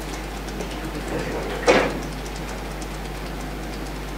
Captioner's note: tapping fingers